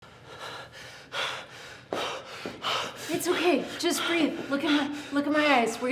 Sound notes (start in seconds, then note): 0.0 pants